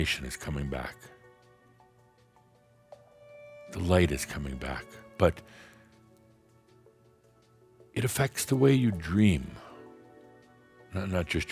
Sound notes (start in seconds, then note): none